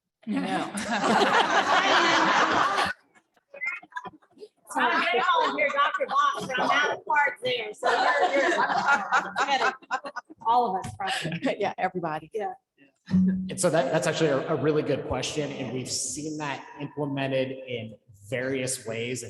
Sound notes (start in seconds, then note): 7.6 laughter